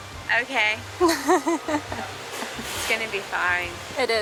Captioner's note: chuckles in the background